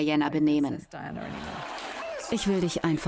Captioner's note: crowd applauds